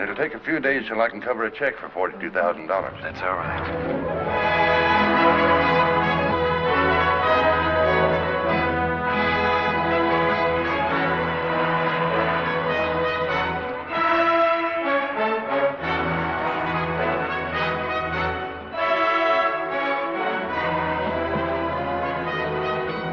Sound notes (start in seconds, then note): 20.0 bell